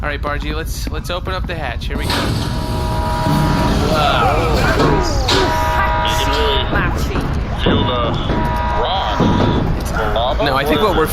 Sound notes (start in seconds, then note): 8.1 hesitant